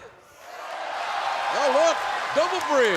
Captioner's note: cheers and applause